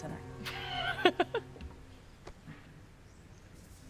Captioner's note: Claire laughs